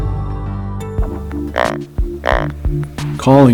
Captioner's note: sound of grunt call